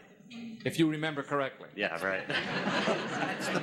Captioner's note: audience laughing